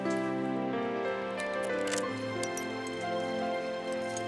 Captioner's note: clicking